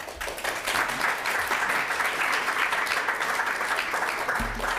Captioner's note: audience applauds